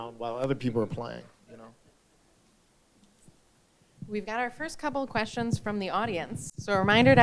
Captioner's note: none